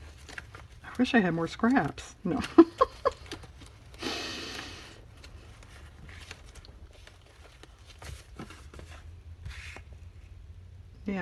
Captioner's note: laughs